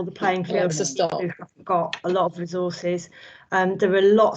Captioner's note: distorted audio